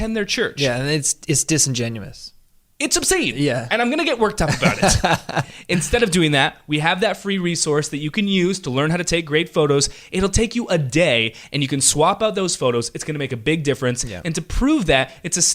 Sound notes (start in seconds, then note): 4.4 laughing